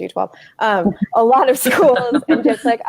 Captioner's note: laughing